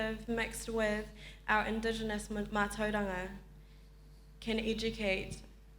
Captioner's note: speaks in foreign language